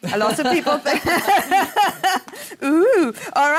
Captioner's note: laughing